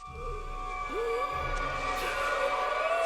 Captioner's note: gasping